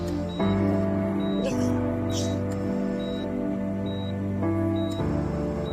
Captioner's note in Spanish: Sollozos